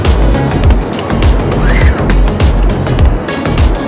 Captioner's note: table clicks; upbeat music